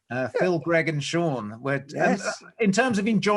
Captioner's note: laughs